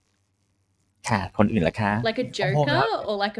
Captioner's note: in Thai